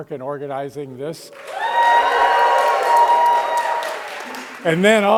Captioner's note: cheering and applause